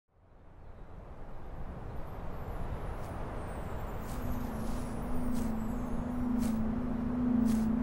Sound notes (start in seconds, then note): 0.3 wind, sparkles; 5.6 footsteps